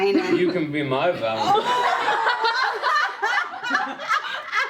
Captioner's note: laughter